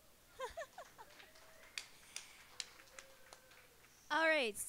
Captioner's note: applause